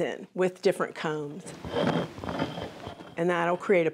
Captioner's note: scraping